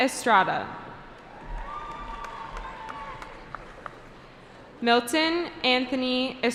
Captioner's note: cheering